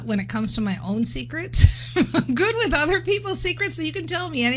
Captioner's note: laughing